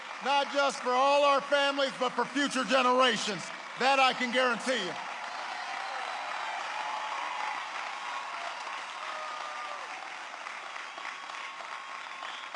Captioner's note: applause